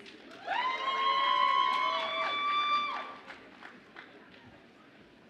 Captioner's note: audience applauds and cheers